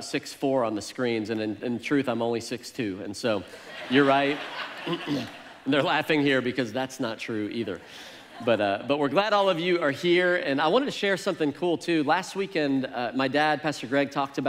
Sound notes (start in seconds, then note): 3.4 congregation laughs